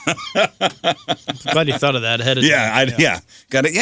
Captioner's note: laughing